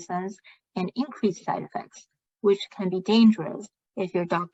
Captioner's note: speaking chinese